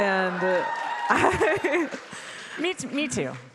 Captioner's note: audience cheering; chuckles